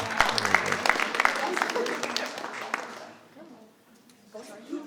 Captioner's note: audience applauding